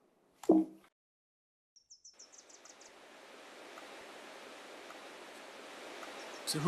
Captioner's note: forest din